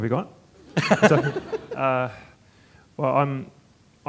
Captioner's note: audience chuckling